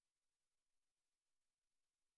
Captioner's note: none